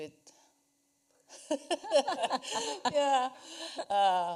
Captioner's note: laughs